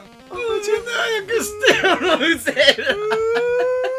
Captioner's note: laugh